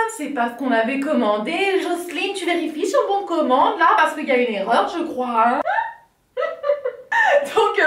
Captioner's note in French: rires de malaise LOL